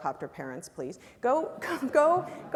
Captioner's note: laugh